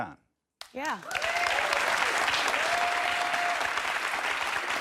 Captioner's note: audience applauds